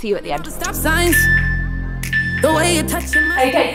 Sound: timer beeping

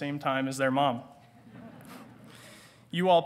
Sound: audience titters

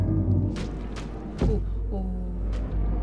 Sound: meat squelching

